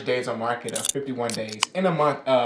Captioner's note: can opening